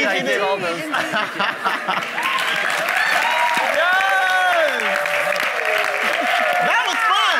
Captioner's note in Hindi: वाहवाही